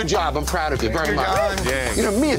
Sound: cheers

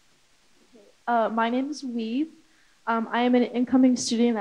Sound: non-english speech

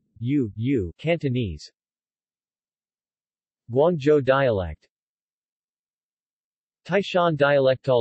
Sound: Cantonese

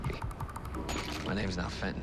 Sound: clatters

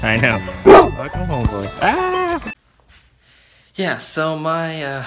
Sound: Dragon barks; yells

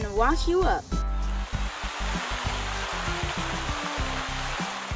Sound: water flowing

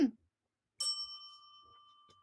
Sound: bell dings

